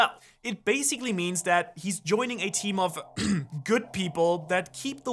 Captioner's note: clears throat